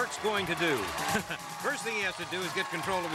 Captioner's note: chuckles